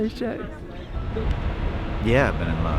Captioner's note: traffic droning